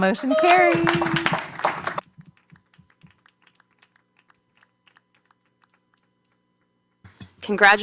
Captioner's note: applause